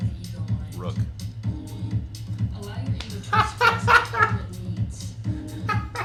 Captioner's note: laughs